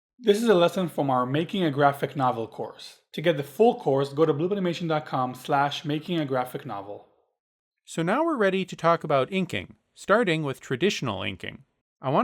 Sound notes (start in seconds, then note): 0.3 voiceover